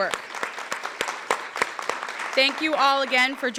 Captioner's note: applause